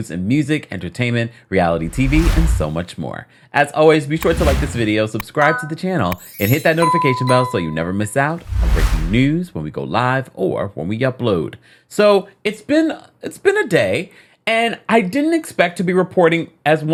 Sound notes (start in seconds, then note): 6.1 bell tinkling